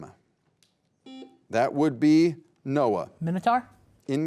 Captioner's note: beep